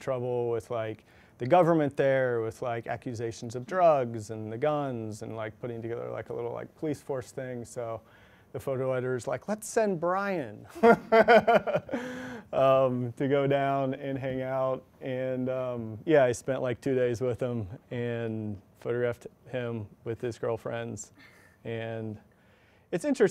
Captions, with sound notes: with the government there with like accusations of drugs and the guns and putting together like a little police force thing. So the photo editors like lets send Brian. (chuckles) To go down and hang out and yeah I spent like two days with him. And photographed him with his girlfriends and it's interesting.